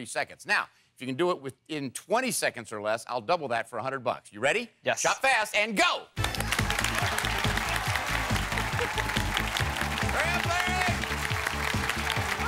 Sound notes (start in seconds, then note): 6.2 applause; 6.2 energetic music